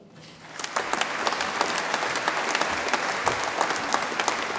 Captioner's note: audience applauds